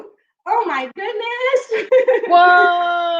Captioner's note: laughs